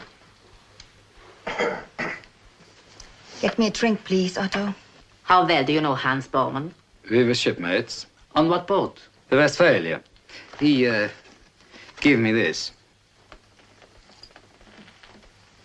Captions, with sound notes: (Coughs) Get me a drink, please, Otto. - How well do you know Hans? - We were shipmates. - What boat? - The Westphalia. He, er, gave me this.